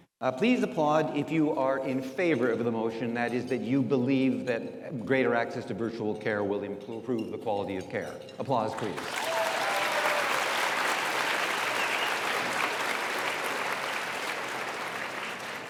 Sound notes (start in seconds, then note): 8.7 audience applauds